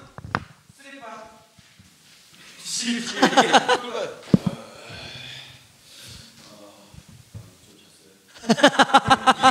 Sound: Mimicking Baek, Koo-young

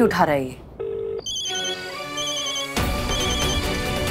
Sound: phone ringing

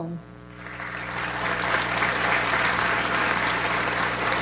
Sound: audience applauds

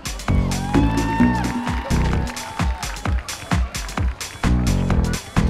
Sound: crowd cheering and applauding

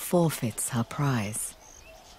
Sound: chirping

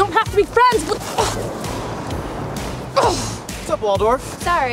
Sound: grunts

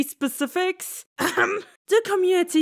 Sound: cough

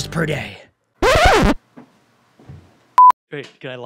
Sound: record scratches

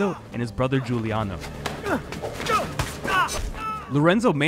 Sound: grunting

